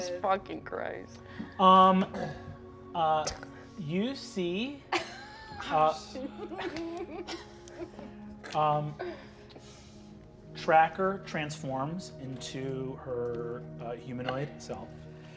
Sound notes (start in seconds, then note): 4.9 all laughing